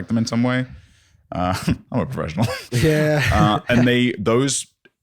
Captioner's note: laughing